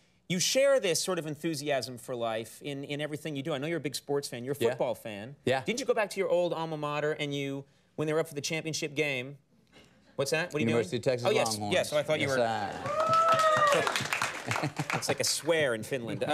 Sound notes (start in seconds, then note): 12.2 part of studio audience cheers